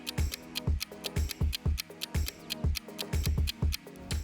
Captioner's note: clock ticks